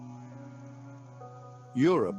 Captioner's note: narrator over music